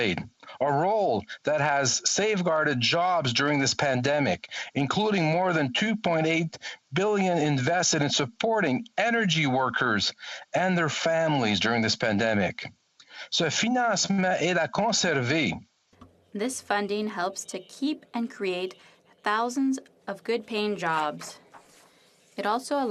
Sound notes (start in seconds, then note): 18.2 speaking French